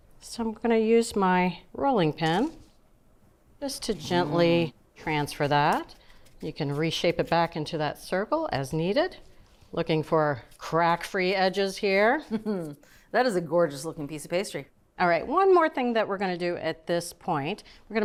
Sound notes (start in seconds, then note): 12.2 chuckles